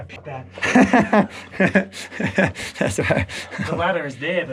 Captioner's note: laughing